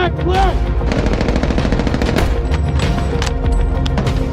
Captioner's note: gun firing